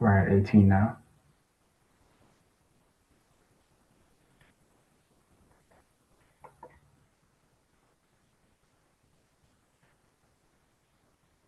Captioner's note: pause